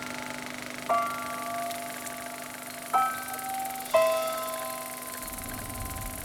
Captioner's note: gentle music; projector running